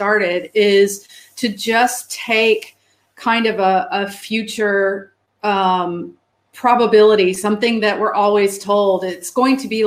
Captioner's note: erm